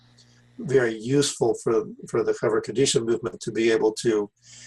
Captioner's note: Hebrew